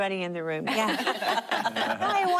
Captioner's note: laughter